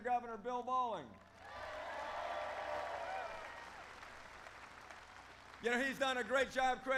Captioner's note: applause